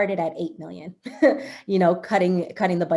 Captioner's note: chuckles